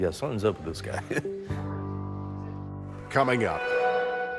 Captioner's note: laughs